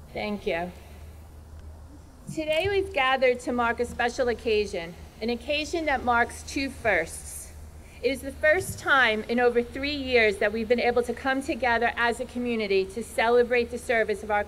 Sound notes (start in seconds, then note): none